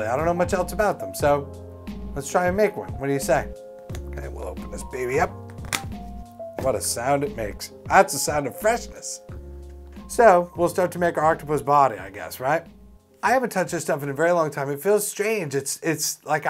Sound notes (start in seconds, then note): 5.4 cap pops off